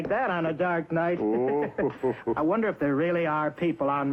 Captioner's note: Santa chuckling